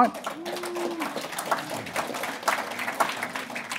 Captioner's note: applauding